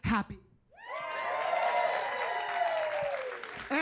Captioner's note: audience cheering